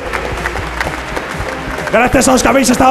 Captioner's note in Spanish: Aplausos